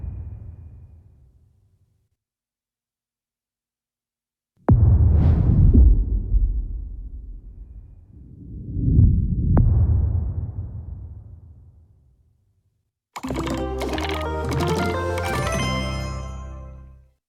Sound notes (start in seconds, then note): 0.1 dramatic sound; 6.2 dramatic sound